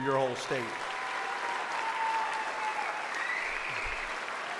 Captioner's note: audience applauds